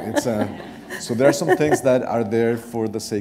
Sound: laughter

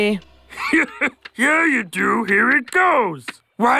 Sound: laughs

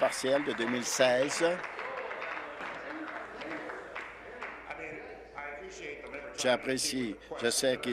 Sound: applause

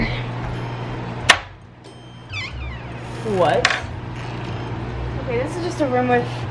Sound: groans; door opens

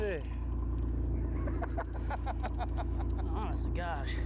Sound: laughter

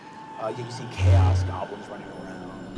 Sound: whistling

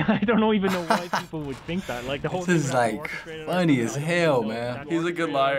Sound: laughs

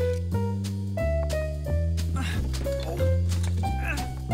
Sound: grunts of effort

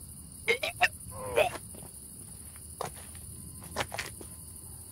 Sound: Caleb retches

